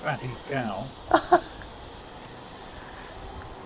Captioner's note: laughter